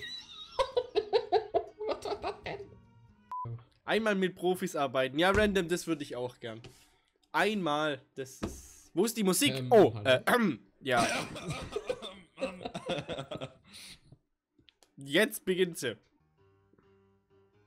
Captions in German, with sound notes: [Lachen] Was war das denn? Einmal mit Profis arbeiten. Ja Random, das würde ich auch gern. Einmal... das ist Wo ist die Musik? Oh... [Räuspern] Ja [Husten und Lachen] Jetzt beginnt sie.